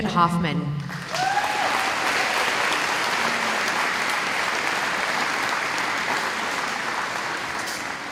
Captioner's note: applause